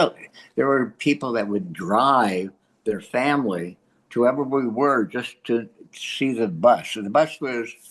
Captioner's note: laughs